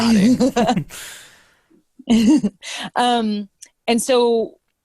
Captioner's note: all laughing